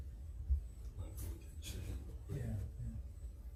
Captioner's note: speaking away from mic